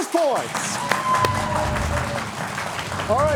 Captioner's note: audience applauding